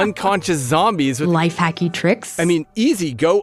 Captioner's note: laughs